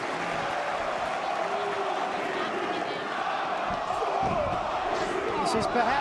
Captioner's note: crowd cheering